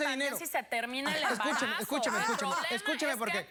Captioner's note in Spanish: Risa sarcástica de la Doctora